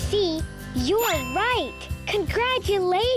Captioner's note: bell dinging